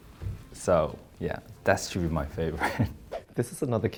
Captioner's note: laughs